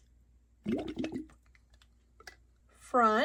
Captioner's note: water gurgles